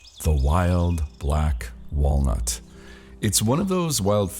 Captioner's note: birds chirping